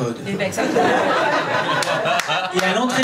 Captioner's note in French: rires public